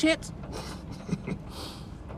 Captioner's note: chuckles